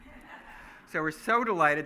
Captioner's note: laughing